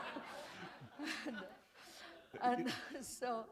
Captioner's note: laughter